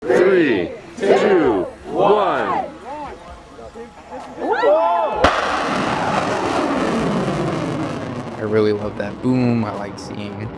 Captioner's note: loud explosion from rocket take off